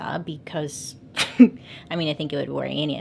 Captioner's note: slight laugh